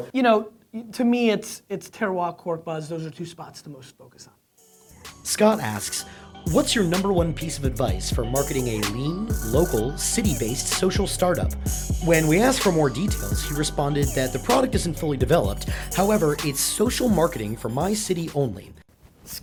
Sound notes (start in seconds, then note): 5.3 voiceover